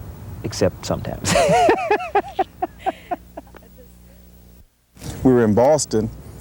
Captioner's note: laughs